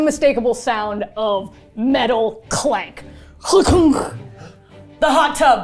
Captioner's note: imitates metal clanking